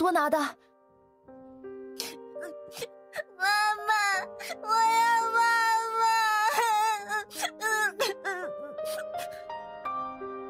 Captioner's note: sobs